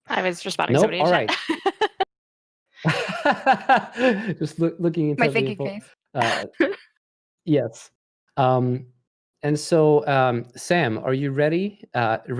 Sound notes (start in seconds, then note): 2.8 laughter